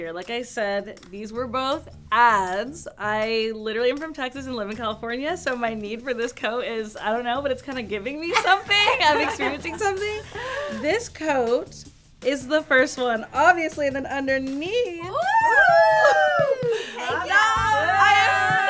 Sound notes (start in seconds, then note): 8.3 girls laughing; 15.1 girls cheering; 15.2 girls vocalizing